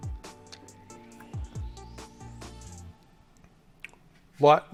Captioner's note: lips smacking